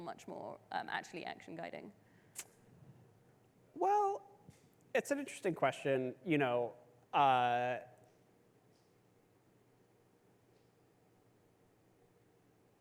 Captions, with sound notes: much more actually action-guiding? (tongue clicks) - Well, it's an interesting question.